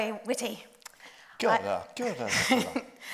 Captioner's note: speaks in Māori; chuckles